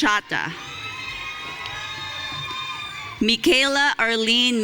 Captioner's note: audience cheering